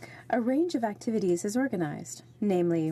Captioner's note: speaking French